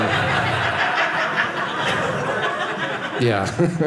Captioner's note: audience laughing